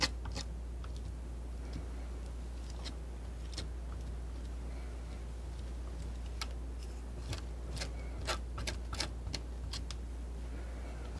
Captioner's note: scratching